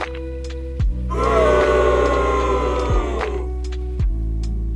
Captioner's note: boo sound effect